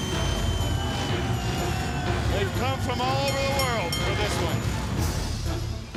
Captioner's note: crowd cheering